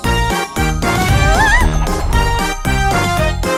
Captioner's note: wails